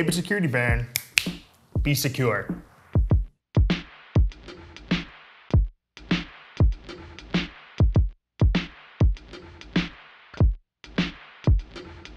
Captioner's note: snaps fingers